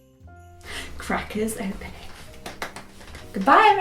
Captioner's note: claps